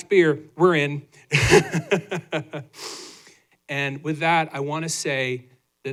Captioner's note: laughter